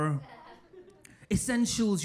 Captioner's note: audience laughing